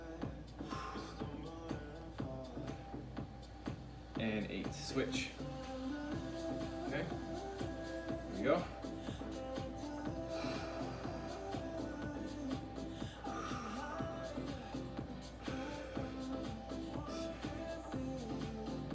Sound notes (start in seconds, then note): 0.0 breaths; 0.0 upbeat music; 0.5 breaths; 6.2 upbeat music; 10.0 breaths; 10.0 upbeat music; 14.4 breaths; 14.4 upbeat music; 18.7 breaths; 18.7 upbeat music